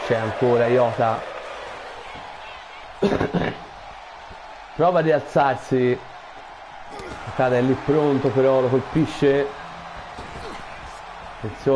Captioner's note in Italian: Applauso